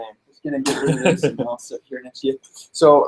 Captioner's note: murmuring